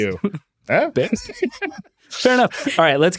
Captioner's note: laughs